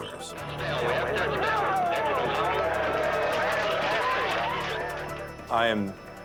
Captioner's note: all cheering and clapping